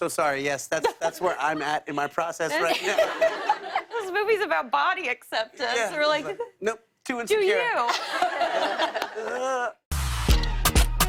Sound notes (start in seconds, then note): 2.9 laughter; 8.7 groans